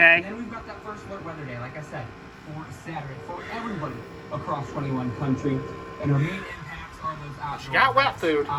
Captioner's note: TV continues to play in background